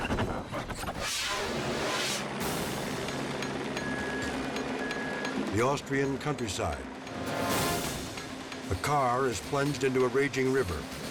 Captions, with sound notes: (helicopter humming) The Austrian countryside. (tense music) A car is plunged into a raging river.